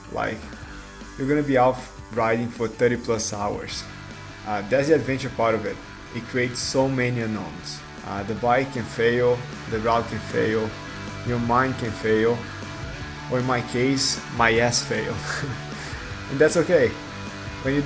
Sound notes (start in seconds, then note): 15.2 laughing